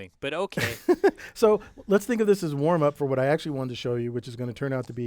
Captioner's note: laugh